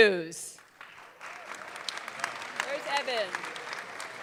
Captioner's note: audience clapping